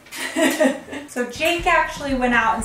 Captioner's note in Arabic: أمي تضحك